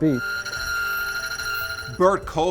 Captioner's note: machine whirring